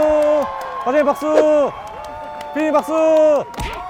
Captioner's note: yells out loud